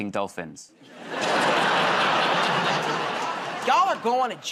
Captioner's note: laughter